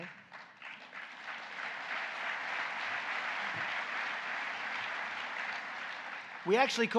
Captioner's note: applause